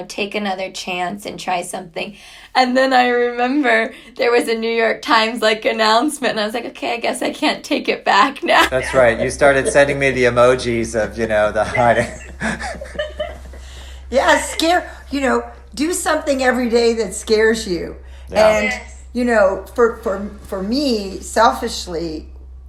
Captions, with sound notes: take another chance and try something. And then I remember, there was a New York Times like announcement. And I was like, okay, I guess I can't take it back now. - That's right. You started sending me the emojis of the (laughs). - Yes, you know, do something every day that scares you. And, you know, for me, selfishly,